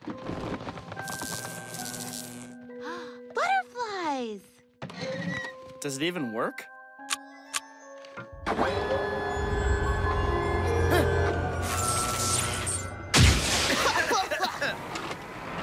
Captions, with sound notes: ( electrical crackling ) BUTTERFLIES! DOES IT EVEN WORK? ( mechanical humming ) UHH! ( both coughing )